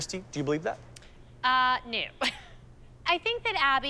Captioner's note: laughs